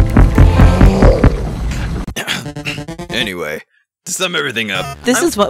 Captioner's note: clears throat